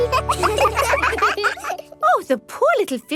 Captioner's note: children laugh